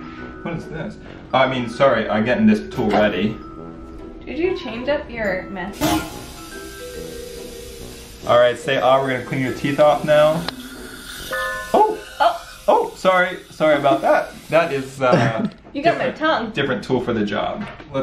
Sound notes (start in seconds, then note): 6.3 air hissing